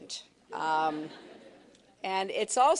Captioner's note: laughter